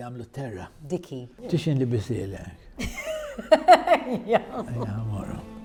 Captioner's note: laughs